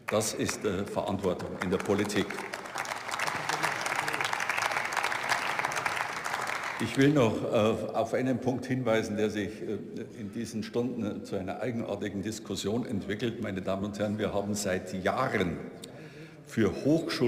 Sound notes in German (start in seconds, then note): 2.7 Beifall